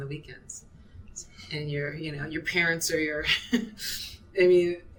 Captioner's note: chuckling